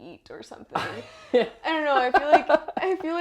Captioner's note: laugh